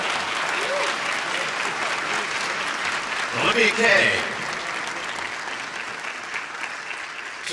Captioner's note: applause